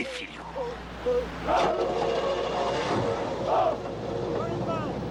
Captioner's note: car Starting